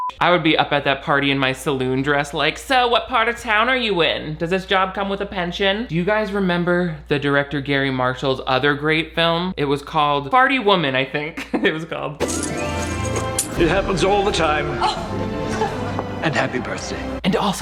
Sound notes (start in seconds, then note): 0.0 beep; 11.5 laughs; 12.2 lively music